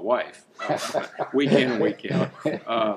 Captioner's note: laughing